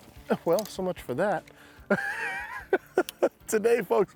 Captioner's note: laughs